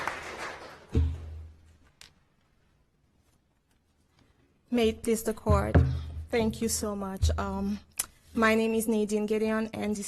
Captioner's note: applause